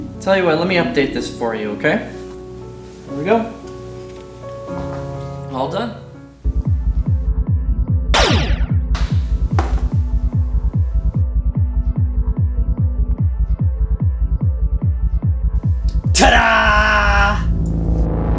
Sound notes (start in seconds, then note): 8.1 laser shot